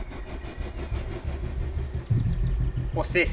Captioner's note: dramatic music; birds chirping; dramatic music